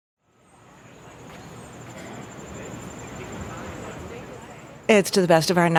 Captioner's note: city bustling; people chatting